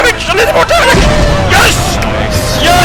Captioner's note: boooooooooooommmmmmmm!!!!!!!!!